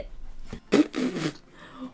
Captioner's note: laughs